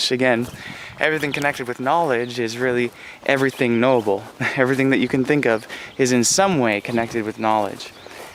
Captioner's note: small chuckle